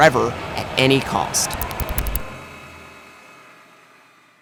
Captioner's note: glitch